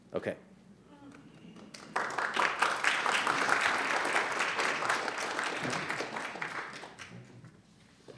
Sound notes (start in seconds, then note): 1.4 applause